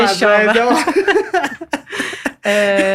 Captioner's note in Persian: خنده